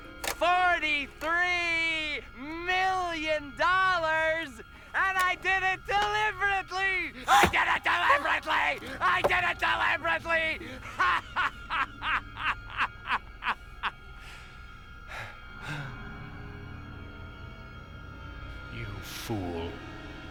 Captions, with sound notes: $43 MILLION ! AND I DID IT DELIBERATELY ! I DID IT DELIBERATELY ! [ Gasps ] I DID IT DELIBERATELY ! [ Sighs ] YOU FOOL.